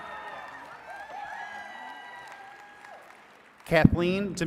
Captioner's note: attendees cheering and clapping